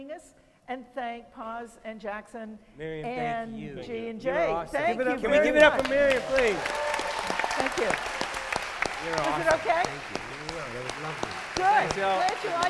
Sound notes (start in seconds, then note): 5.6 cheers, applause